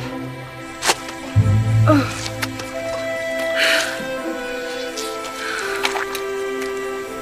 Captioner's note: groans